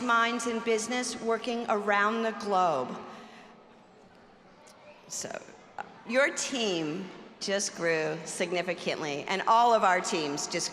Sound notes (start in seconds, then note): none